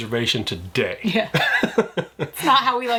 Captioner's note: chuckling